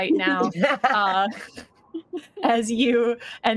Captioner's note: laughs